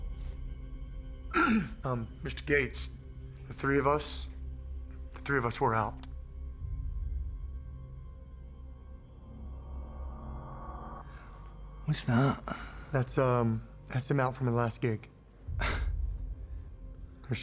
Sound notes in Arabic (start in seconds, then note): 1.3 ينظف الحلق; 11.8 لكنة اسكتلندية; 15.5 تنهدات